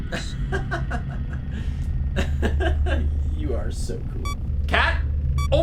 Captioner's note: laughs